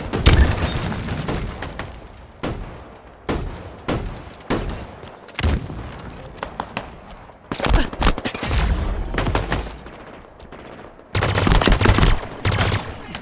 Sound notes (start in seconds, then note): 0.2 explosion; 7.2 grunts; 10.5 gunfire